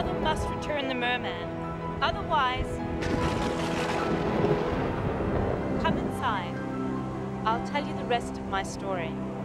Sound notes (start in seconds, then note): 2.9 thunder booms